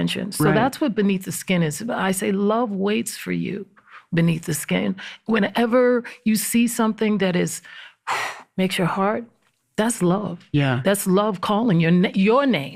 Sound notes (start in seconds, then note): 7.6 exhales